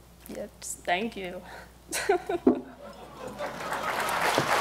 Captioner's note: laughs; applause